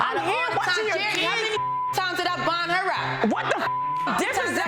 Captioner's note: overlapping chattering; beep; beep